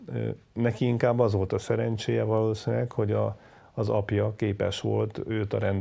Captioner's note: speaking foreign language